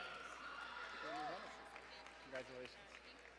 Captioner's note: crowd cheering and applauding